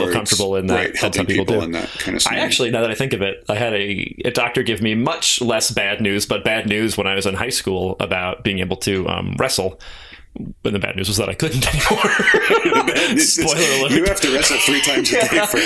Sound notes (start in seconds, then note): 11.7 laughter